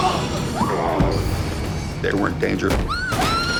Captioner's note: groaning